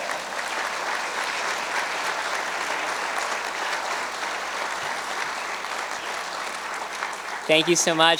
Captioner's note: cheers and applause